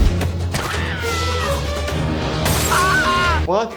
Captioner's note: dramatic music; people shouting; glass shattering; Yumyulack shouting